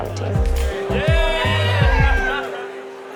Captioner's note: cheers